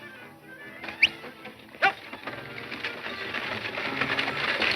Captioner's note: whistling